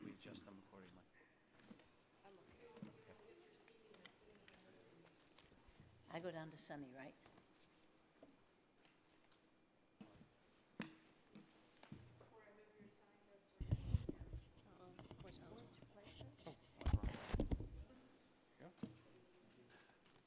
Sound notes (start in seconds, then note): 14.0 group chattering